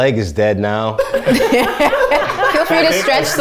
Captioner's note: laughter